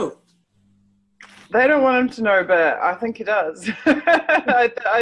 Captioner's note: laughs